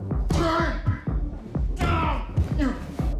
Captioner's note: grunting